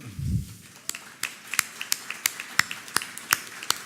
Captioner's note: applause